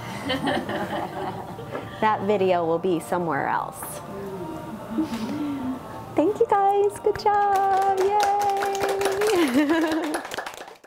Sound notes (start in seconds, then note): 0.2 laughter; 7.2 crowd applauding